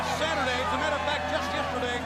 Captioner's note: crowd cheering